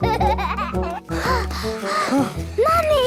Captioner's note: children giggling; panting